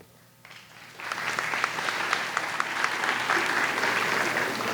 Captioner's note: audience applauds